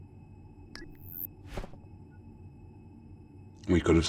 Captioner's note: electronic beeping